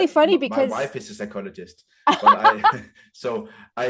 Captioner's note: both laugh